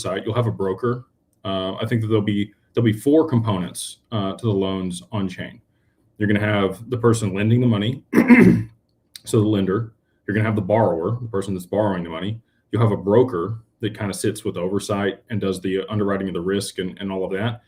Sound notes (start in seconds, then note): 8.0 clears throat